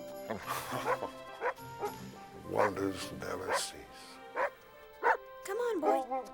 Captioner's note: chuckling